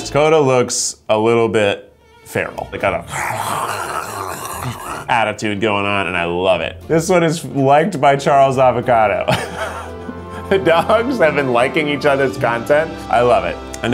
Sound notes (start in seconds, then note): 3.0 snarls; 9.3 laughs